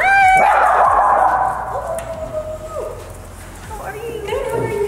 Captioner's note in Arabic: كلب ينبح